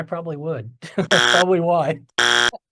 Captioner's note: buzzer blaring